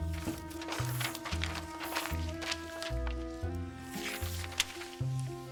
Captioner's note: gentle music continues; markers scratching